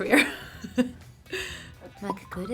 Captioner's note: laughing